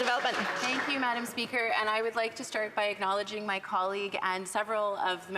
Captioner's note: some Applause